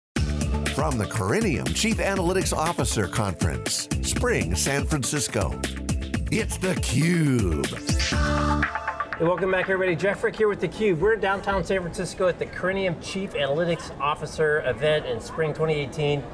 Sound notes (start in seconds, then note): 0.0 upbeat music; 8.0 computerized thrum